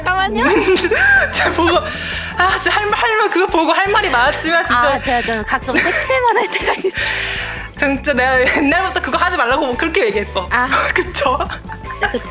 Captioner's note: boss's deep sigh